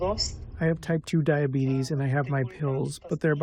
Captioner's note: through translator